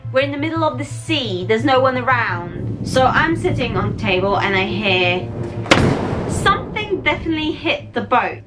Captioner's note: loud thud